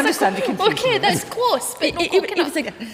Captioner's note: laughs